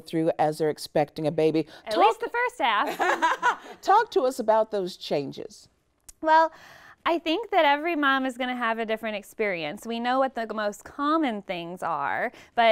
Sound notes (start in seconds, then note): 3.2 laughing